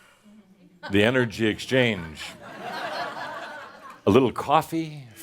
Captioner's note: laughter